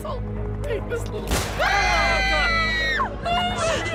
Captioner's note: explosion, people scream